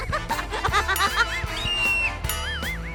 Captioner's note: laughing; screaming